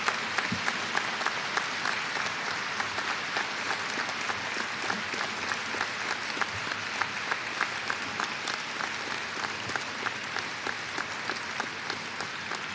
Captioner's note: applause